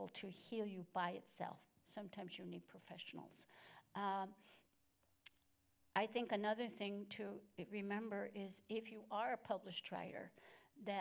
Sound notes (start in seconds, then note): none